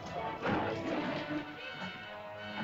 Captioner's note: suspenseful music; terrified chatter; suspenseful music; dinosaur snarls; suspenseful music